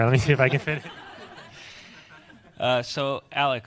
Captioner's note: audience laughs